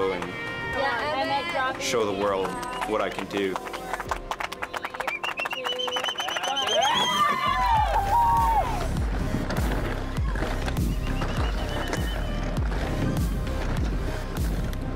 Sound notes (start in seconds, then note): 2.1 all clapping; 6.2 all cheering; 10.4 bright upbeat music